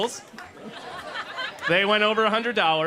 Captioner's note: laughter